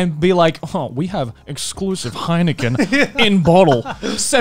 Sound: laughing

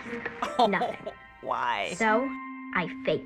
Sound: sympathetically

